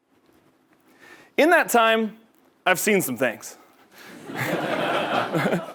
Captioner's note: laugh